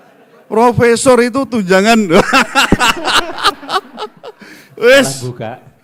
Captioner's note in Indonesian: tertawa